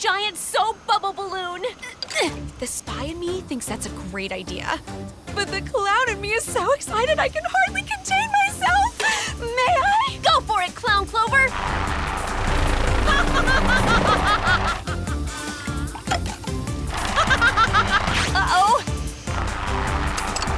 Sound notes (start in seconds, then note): 11.2 maniacal laughter; 15.1 laughter